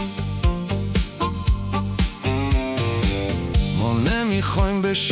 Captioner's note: none